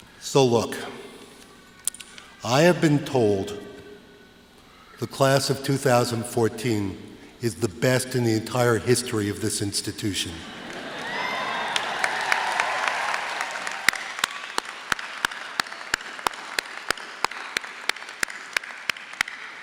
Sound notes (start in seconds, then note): 10.4 laughter, applause